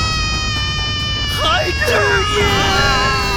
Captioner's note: the Kid Cry